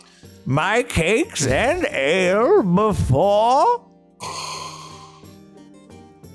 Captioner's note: inhales